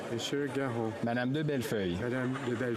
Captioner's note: speaking French